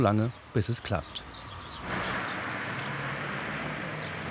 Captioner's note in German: Vogelzwitschern, Straßenlärm